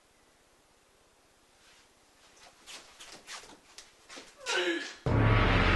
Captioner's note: throwing up in other room; running feet